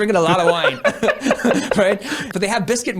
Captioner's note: laughing